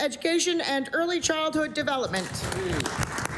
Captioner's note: applause